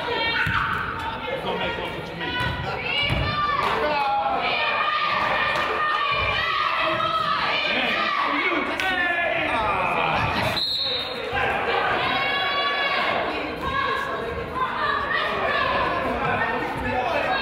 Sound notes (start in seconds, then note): 1.9 coach yells; 3.9 claps; 8.7 claps; 9.4 crowd yells; 10.5 whistle blows